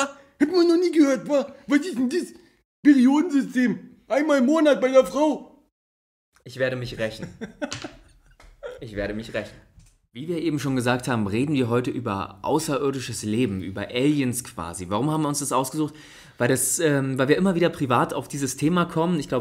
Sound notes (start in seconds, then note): 7.0 laughs